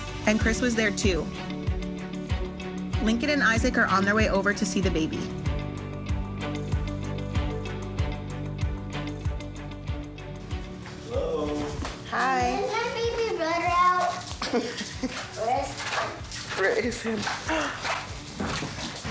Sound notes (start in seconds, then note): 6.2 mellow music; 14.2 laughing